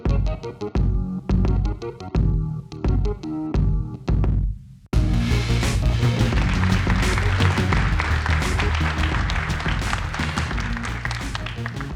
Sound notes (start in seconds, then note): 0.0 upbeat music; 6.2 audience applauding